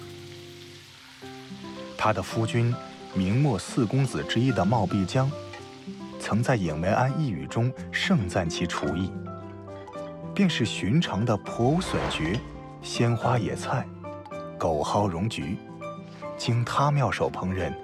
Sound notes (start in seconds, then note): 5.0 simmering, and steaming